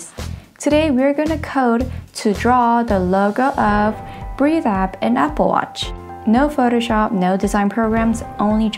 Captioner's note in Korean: 호흡